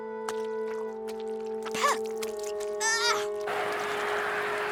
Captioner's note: spitting, groaning